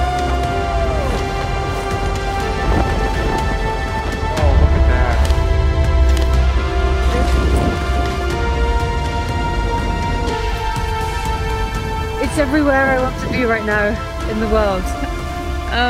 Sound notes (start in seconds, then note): 0.0 triumphant music; 0.0 scientists cheering; 6.3 camera clicking